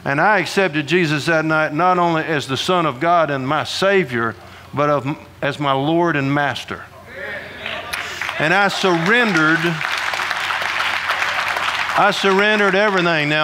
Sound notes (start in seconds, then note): 7.6 audience applauding